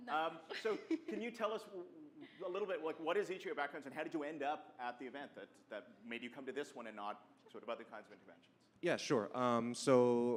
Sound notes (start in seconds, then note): 0.5 laughs; 1.4 voiceover